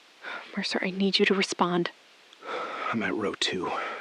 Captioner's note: shuffling — close to the receiver, breathing